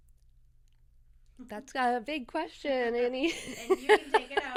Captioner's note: laughter